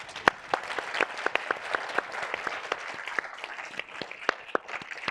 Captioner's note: audience applauding